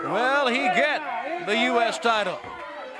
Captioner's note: crowd chatter